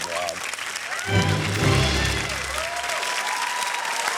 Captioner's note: cheering, applause